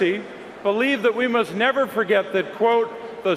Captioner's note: none